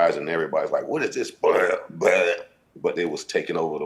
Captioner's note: imitates beat